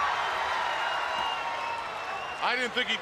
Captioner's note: crowd cheering